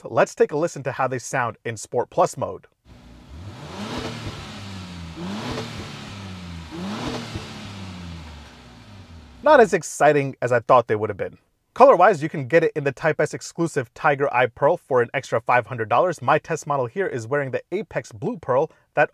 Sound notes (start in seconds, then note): 2.8 car revving